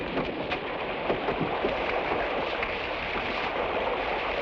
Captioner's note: water splashes